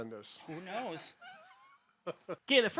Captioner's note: laughing